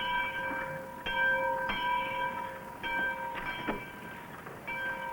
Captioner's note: none